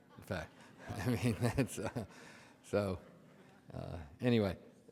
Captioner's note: audience laughs